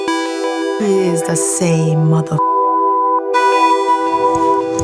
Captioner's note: beep; intense music